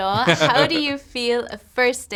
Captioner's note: laughing